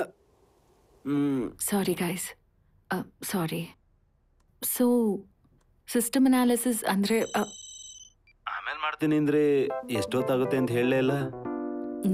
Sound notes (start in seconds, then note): 7.1 intercom ringing